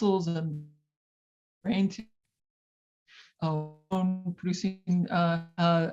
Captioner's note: radio interference drowns out speaker